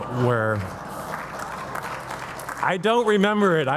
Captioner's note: audience applauding